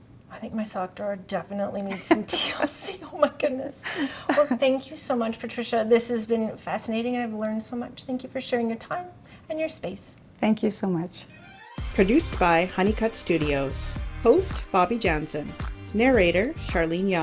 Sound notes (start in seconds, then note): 3.8 chuckles; 11.4 energetic music